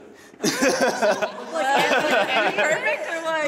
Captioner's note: laughs